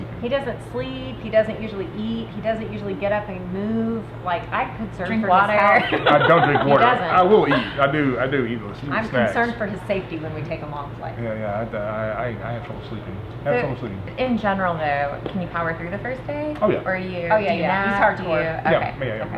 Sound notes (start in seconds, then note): 5.6 laughs